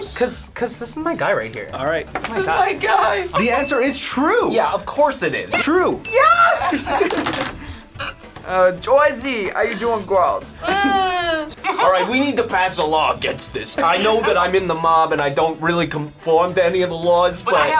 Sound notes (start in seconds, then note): 8.8 in east coast accent